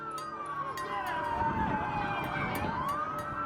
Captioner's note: siren